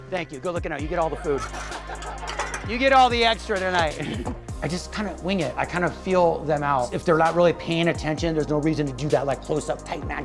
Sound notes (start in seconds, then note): 1.2 laughter; 5.2 chuckles